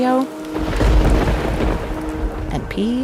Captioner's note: waves whishing; thunder roaring